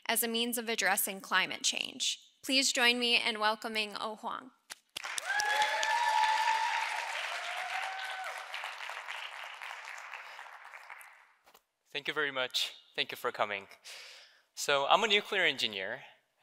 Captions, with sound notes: as a means of addressing climate change. Please join me in welcoming O Hwang. (audience cheering) - Thank you very much. Thank you for coming. So, I'm a nuclear engineer